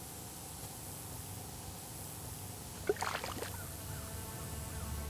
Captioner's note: insect buzzing; tense music